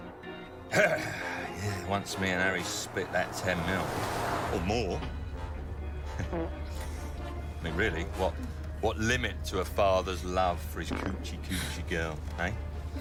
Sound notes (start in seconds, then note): 6.1 man farts; 10.9 men farting